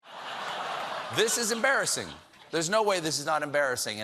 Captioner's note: laughter